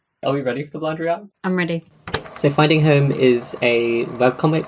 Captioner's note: tape recorder clicks on